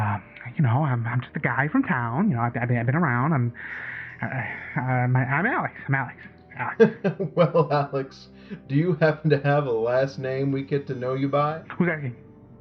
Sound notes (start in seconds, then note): 6.6 laughs